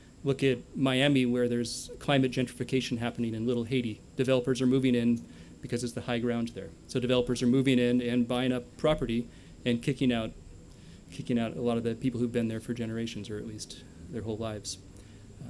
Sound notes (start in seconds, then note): none